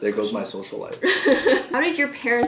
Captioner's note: laughing